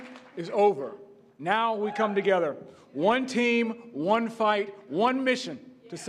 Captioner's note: cheering